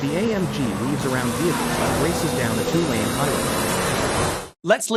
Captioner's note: car engine roars